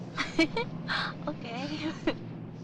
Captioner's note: laughing